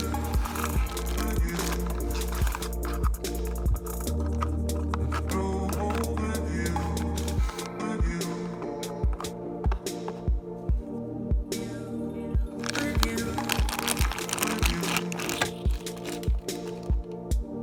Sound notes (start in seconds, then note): 2.9 box Closing; 12.6 plastic opening